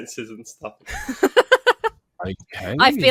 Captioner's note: laughs